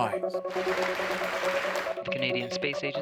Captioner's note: applause